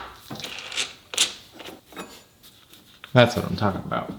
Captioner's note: part thudding; tool creaking